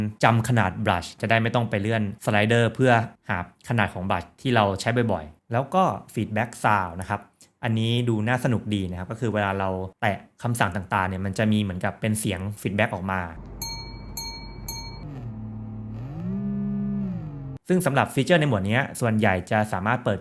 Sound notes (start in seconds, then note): 13.4 feedback sound